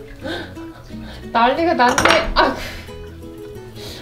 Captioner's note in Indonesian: tertawa; suara jatuh